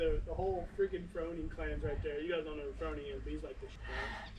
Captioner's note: quiet conversation